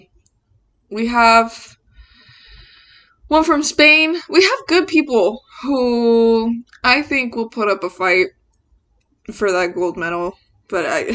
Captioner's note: laughs